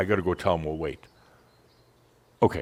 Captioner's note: slight pause